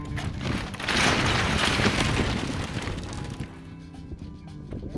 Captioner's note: building crumbling